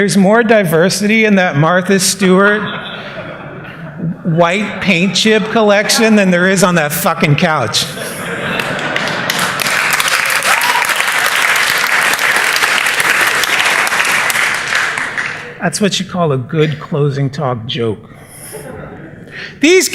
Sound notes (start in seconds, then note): 9.5 laughter; 11.6 applause